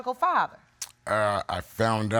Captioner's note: clicks tongue